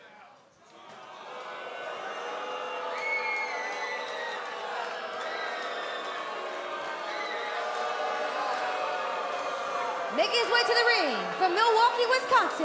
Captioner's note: crowd cheering